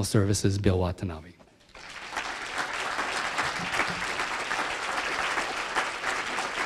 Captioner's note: applause